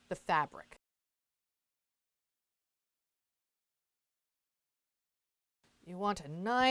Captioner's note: no Sound Present